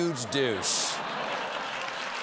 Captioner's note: laughter; applause